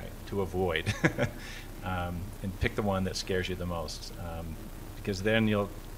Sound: laughter

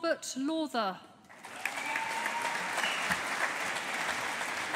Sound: audience applauding

